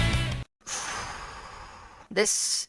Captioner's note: exhale